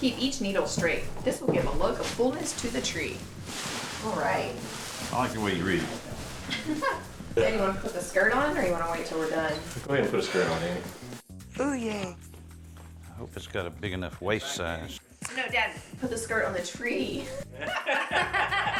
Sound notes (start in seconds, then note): 6.5 chuckling